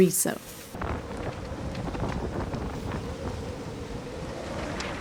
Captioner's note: wind blowing